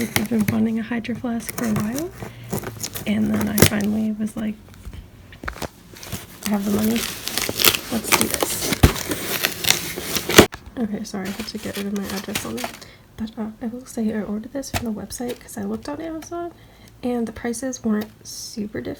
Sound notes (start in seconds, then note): 9.1 tape crinkling